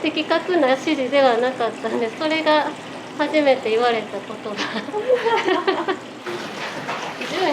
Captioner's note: laughs